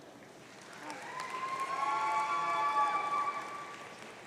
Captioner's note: audience cheering